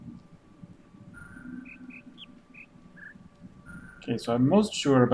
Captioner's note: bird chirps five notes